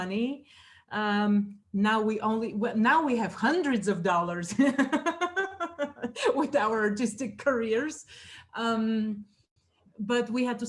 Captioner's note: laughs